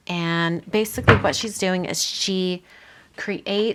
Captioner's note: object knocking